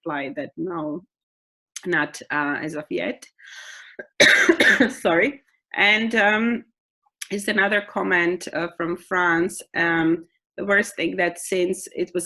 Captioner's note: coughing